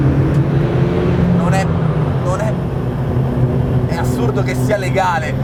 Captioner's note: engine sound